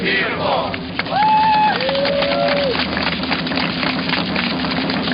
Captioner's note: cheering and applause; drumming